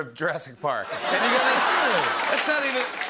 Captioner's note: laughter